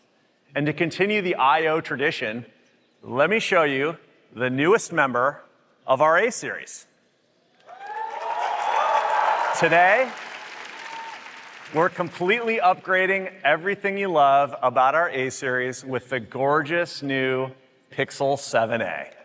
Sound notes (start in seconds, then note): 7.6 applause